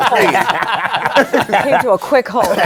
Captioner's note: laughter